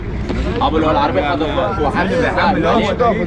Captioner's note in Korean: 쏟아지는 아랍어 폭격